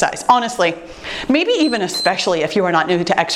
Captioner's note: timer beeps